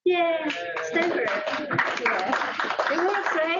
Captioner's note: cheers and applause; applause